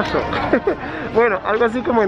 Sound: chuckles

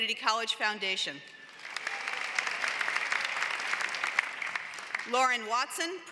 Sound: applause

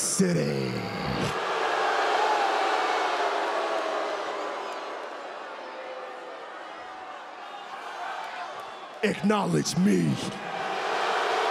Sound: applause

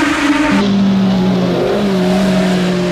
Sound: crowd cheering

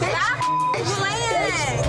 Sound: beep

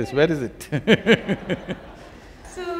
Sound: laughter

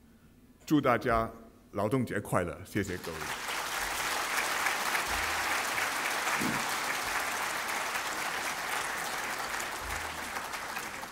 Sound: 掌声

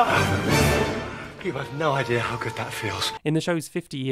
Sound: yelps

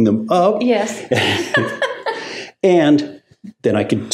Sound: laughs

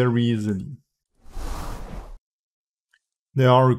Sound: screen whooshing

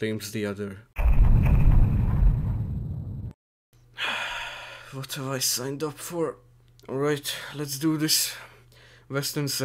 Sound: deep sigh

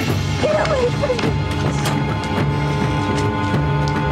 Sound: whimpers and yells

